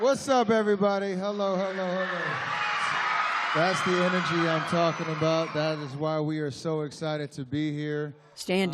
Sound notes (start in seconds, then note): 2.3 cheering